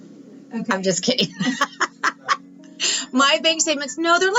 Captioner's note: laughing